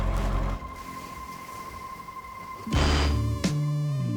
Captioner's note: waves crashing; casual upbeat music